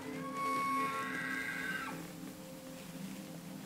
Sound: elk bugles

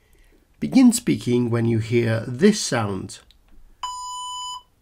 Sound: beep

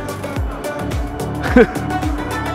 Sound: laughs

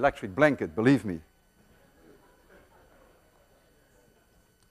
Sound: students chuckle

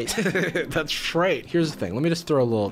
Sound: laughing

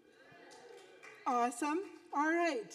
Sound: audience whooping

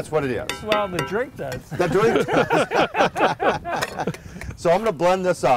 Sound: laughing

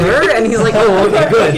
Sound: chaos, laugher

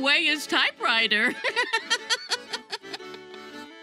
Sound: laughs

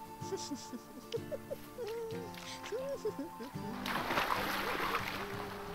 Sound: giggling

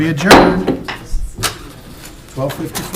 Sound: gavel taps

